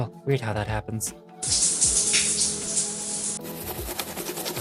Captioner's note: shower noises